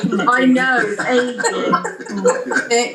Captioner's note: laughter